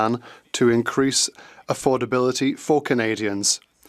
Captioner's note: speaking French